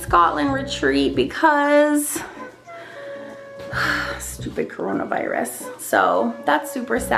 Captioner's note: sighs